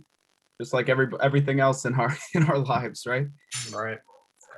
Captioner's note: laughing